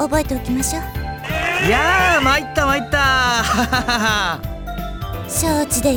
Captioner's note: laugh